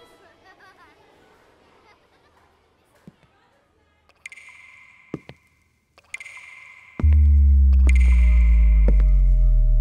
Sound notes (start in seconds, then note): 0.1 laughing; 6.9 footsteps